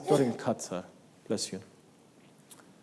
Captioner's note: audience sneezes